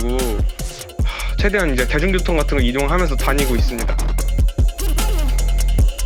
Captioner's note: sigh